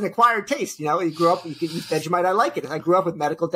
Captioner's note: laughs